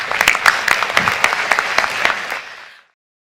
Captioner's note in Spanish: Aplausos